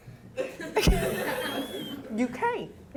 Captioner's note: audience laughing